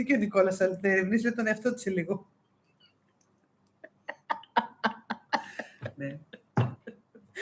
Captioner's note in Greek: γέλια